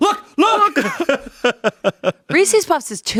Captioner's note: everyone laughs